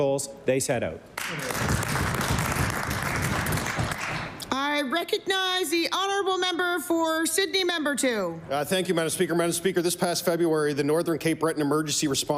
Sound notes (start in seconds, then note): 5.4 applause